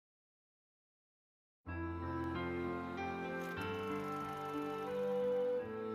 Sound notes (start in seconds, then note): 0.0 silence; 2.1 film projector rolling